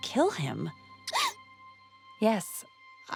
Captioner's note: gasp